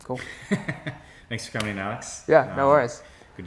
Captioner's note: hearty laugh